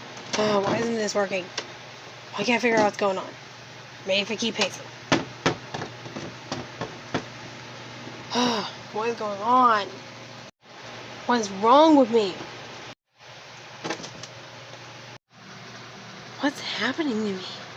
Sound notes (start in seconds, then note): 0.6 groans; 8.2 sighs